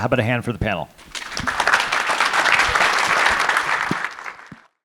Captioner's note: all clapping